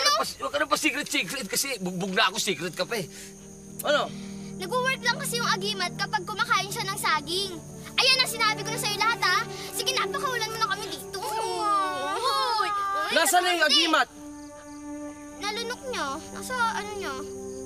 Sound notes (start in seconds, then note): 11.0 Bunny and Ana crying